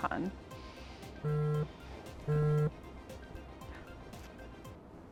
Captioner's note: phone buzzing